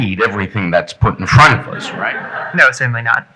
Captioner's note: audience laughing